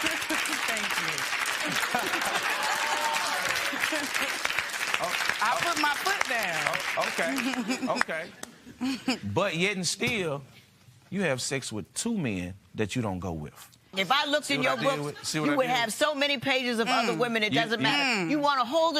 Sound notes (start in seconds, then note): 1.6 laughter